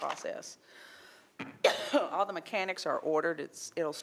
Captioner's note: coughs